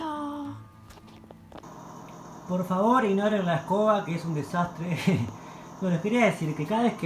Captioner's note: my broken fridge does noises